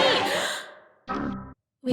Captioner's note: gasps